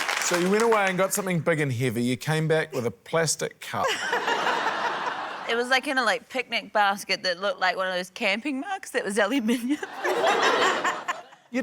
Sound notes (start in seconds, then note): 3.8 laughter; 9.4 laughter